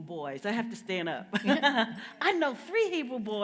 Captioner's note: laughs